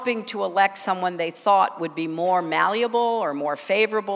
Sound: none

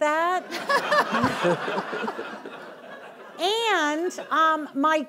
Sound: audience laughing

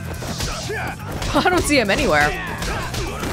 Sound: chuckles

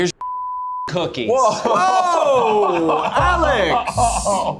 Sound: laughing

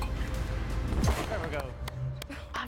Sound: applause

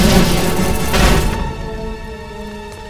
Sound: desk crashes; dramatic music continues

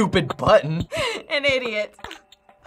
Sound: snickering

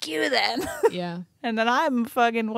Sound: chuckles

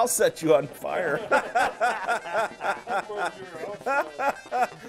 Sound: men laughing; upbeat music

